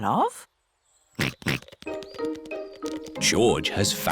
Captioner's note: snorts